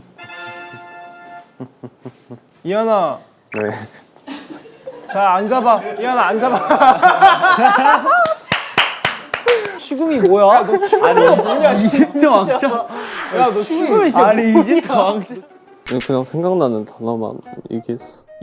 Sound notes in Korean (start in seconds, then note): 12.5 웅성웅성